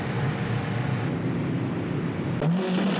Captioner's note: boat engine whirring; water roaring; car engine